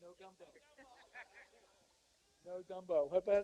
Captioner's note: laughter